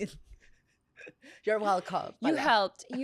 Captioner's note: laughs